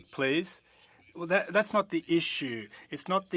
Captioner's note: speaking French